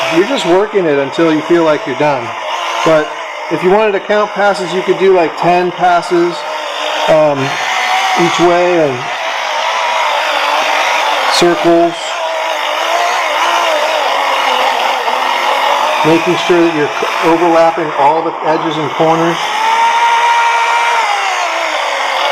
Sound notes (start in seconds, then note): 5.6 machine Running